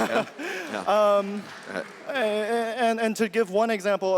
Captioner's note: audience member laughs